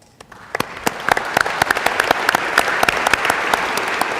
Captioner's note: applause